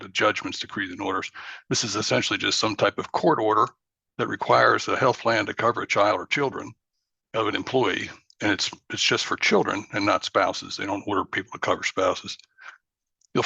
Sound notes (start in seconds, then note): none